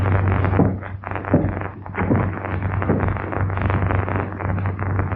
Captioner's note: thunder; thunder